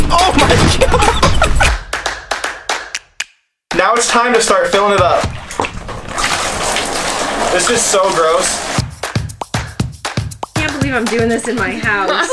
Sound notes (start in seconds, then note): 0.1 laughs; 4.7 milk splashing; 8.9 upbeat music